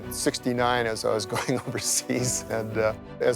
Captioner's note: chuckles